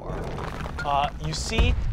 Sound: stone scraping

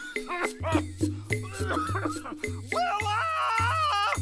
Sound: coughing

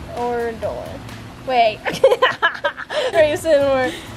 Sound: laughs

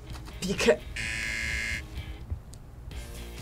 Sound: buzzer rings

